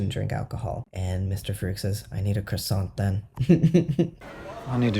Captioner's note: laugh